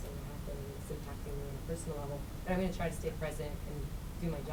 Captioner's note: voice muffled